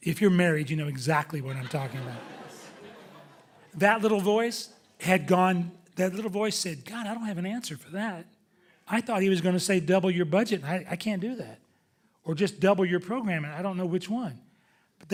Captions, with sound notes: If you're married you know exactly what I'm talking about. (audience laughing) That little voice had gone, that little voice said, God, I don't have an answer for that. I thought he was gonna say double your budget and I can't do that. Or just double your program and I don't know which one.